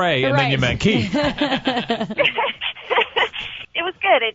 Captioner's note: laughs